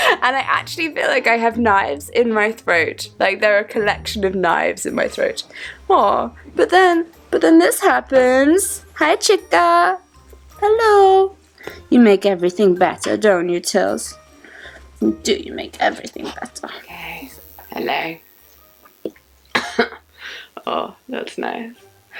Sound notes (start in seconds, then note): 17.7 croakily; 19.5 coughs